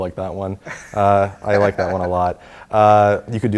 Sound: laugh

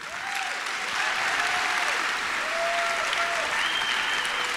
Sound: applause

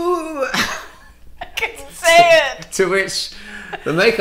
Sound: laughs

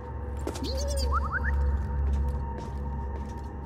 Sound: beep, whistle

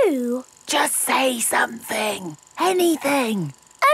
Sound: camera whirring; whispering

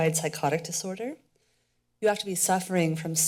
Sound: pause

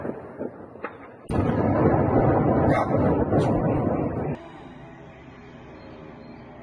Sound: explosions

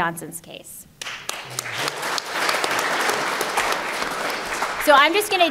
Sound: applause

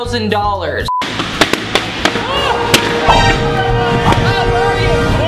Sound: balloons popping

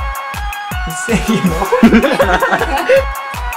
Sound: laughs

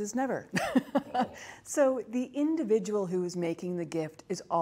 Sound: laughs

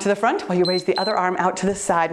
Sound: timer beeps

